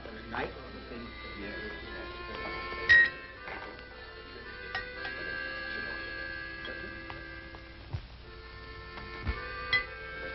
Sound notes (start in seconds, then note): 2.8 glass clinking